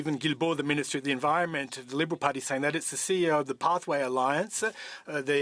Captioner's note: speaking French